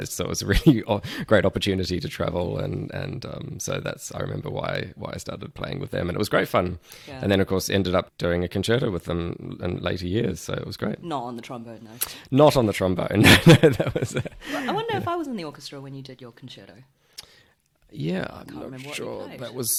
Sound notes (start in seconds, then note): 13.2 laughs